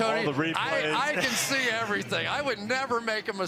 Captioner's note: laughs